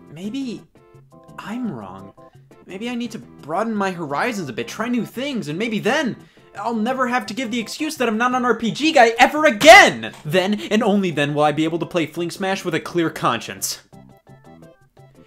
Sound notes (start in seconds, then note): none